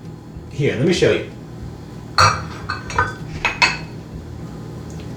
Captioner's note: metal clanging noise